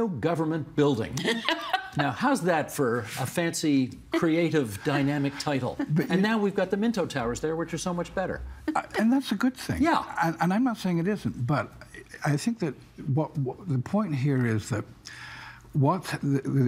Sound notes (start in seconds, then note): 1.2 laughter